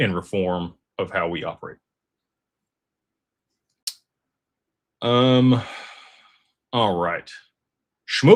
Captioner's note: sighs